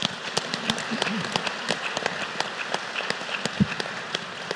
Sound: applause

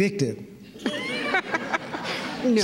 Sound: laughter

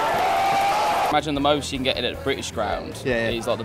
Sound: shouting

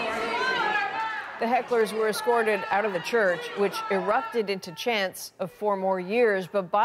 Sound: chanting

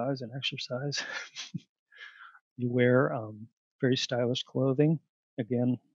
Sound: laughter

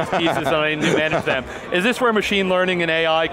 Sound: laughing

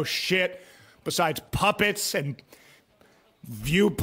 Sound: confused breathing as he tries to think of something else

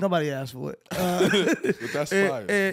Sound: chuckles

